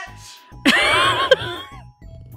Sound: laughs

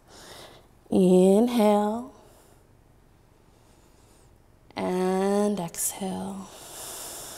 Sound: inhaling; exhaling

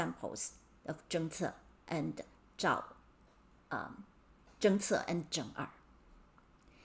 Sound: speaking in Mandarin

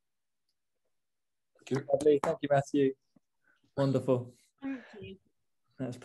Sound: clapping

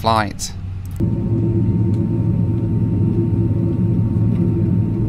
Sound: engine roaring

